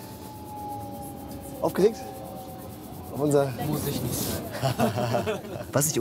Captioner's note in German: lacht